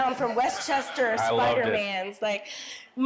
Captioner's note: audience laughing